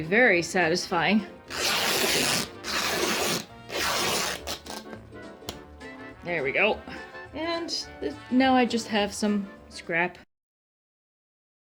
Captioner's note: tear...rip